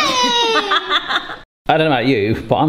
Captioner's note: laughing